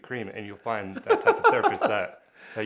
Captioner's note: laughing